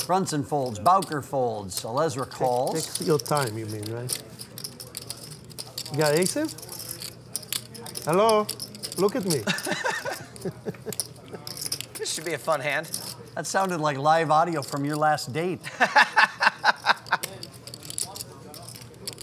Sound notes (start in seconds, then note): 9.4 laughing; 15.7 laughing